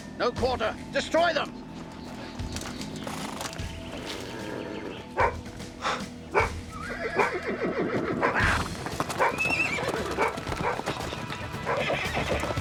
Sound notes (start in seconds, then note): 4.1 Alvar growls; 6.3 Alvar barking; 6.4 horse neighing